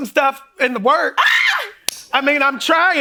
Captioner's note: yelping